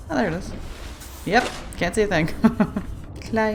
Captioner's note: laughs